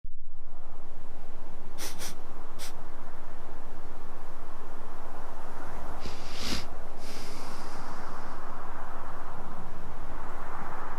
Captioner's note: sniffing, wind